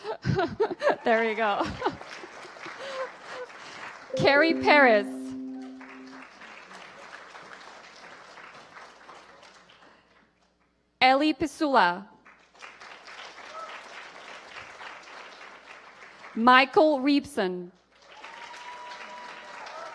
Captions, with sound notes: THAT'S IT FOR WEST VIRGINIA. [APPLAUSE] NOW WE HAVE THE PENNSYLVANIA GROUP, THE HIGH SCHOOL GROUP THEY'RE LEAVING EARLY I'LL MAKE IT QUICK.